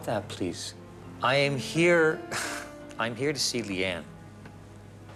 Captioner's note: laughs